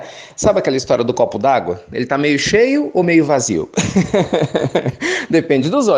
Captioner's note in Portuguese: risos